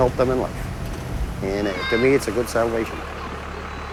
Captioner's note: children talking